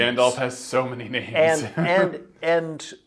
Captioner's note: laughs